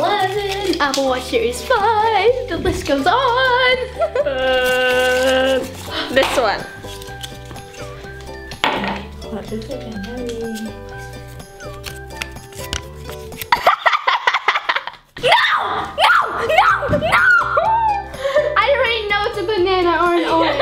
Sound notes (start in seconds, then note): 13.5 laughs